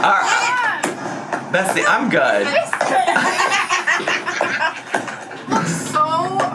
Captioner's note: laughs; laughs